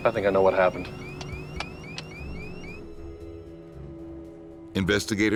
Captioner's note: switches flicking; voiceover